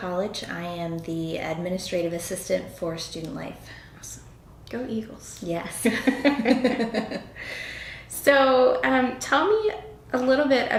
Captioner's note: laughter